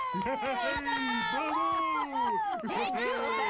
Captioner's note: applauding; cheering